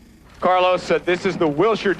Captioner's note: helicopter whirring